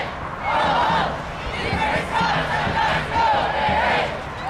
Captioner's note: crowd